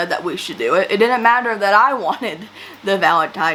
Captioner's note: laughs